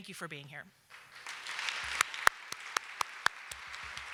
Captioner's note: applause